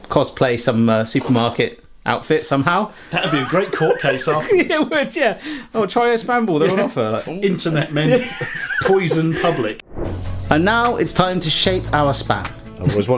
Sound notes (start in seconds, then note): 3.2 laughing; 7.5 laughing; 9.8 scene whooshing; 10.0 upbeat music